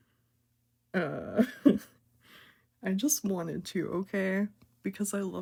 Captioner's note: haha